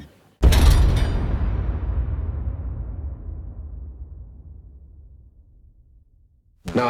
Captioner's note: echoing explosion; metallic rattle